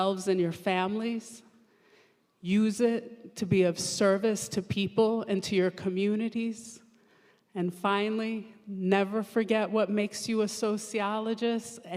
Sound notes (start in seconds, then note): none